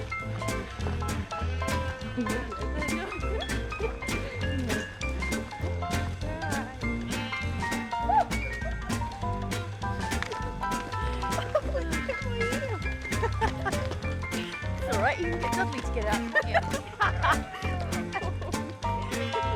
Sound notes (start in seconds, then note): 11.1 giggling; 14.2 indistinct chatter; 17.3 laughing